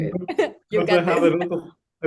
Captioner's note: laughs